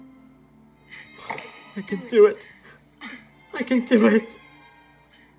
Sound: sobs

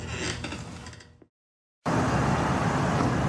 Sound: chair creaking; traffic roaring

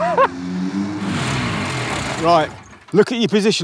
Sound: laughs; engine turns off

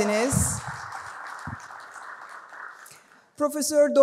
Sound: applause

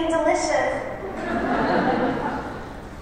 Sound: laughter

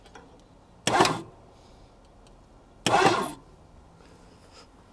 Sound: vehicle engine hums

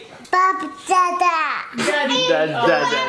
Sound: babbles

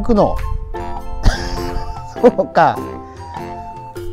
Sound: laughs

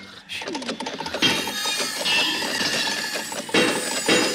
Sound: saw whirring, metal clattering

